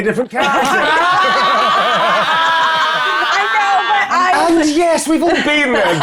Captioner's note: everyone laughs